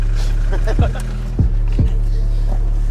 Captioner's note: car engine stops